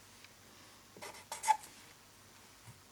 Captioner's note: marker drags, squeaks